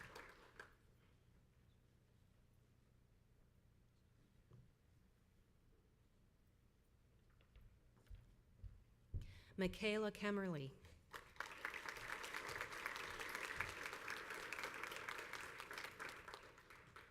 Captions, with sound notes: Mikayla Kemmerly. (crowd applauds)